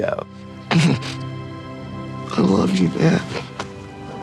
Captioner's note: groans